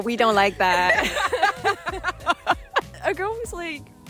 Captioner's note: laughter